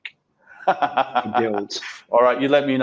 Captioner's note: laughs